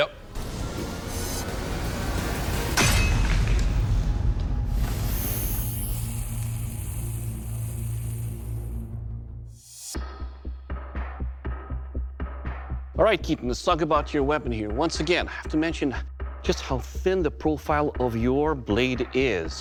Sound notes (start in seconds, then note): 3.4 fire sizzling